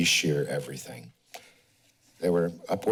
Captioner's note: pause